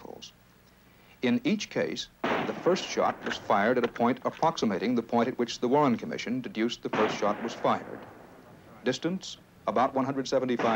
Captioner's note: bang